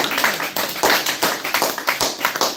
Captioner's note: applause